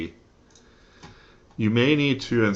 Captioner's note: click